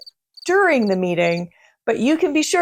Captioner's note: crickets chirp